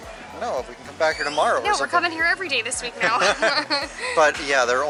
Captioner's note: laughter